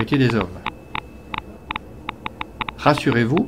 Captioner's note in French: bruitage radio activité